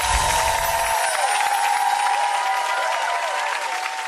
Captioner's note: audience applause